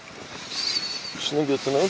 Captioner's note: psstpssst